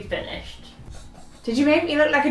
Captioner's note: laughs